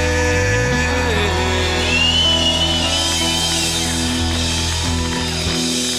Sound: audience applauds and whistles

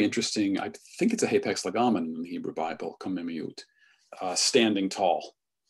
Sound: hebrew

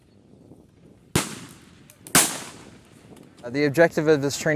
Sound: gunshots

